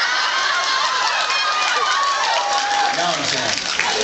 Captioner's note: laughs and screams